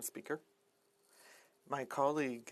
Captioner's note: speaking French